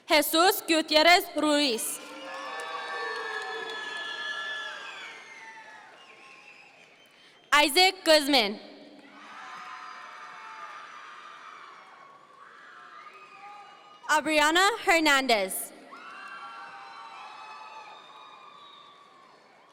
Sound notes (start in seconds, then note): 1.9 audience members cheer; 9.0 audience members cheer; 15.8 audience members cheer